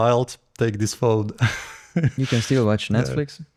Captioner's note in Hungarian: nevetés